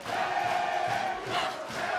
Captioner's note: fans chanting